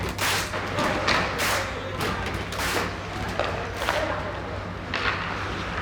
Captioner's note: hockey sticks clattering